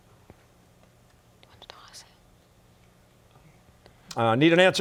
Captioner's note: whispering